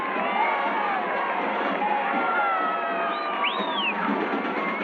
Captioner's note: people cheering